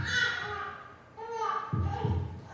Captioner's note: baby crying